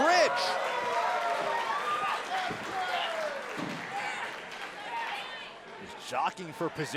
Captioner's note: crowd cheering